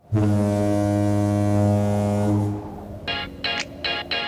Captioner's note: boat horn blowing; upbeat music